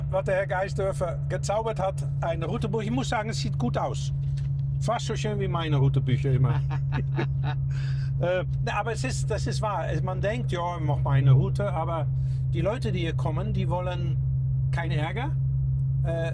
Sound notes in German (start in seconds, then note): 6.3 gelächter